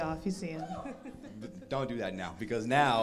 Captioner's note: crowd laughs